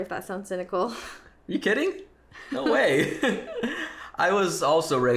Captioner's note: both laughing